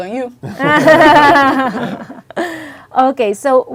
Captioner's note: group laughing